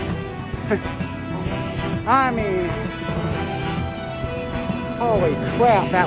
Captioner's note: car engines start